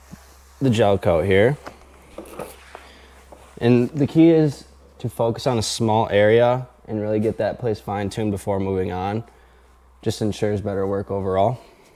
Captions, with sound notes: (tool swishing) the gel coat here. (seat shuffling) And the key is to focus on a small area and really get that place fine tuned before moving on. Just ensures better work overall.